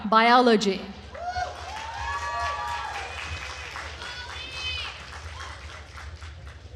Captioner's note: attendees cheering and applauding